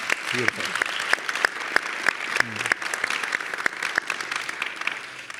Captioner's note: audience applauding